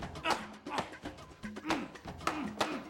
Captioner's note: grunting